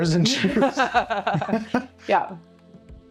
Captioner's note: laughing